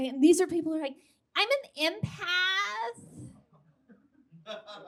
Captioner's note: high-pitched whiney voice